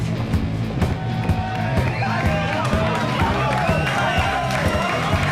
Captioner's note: cheering